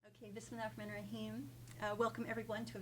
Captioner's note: speaking foreign language